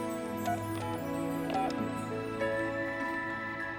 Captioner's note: dialing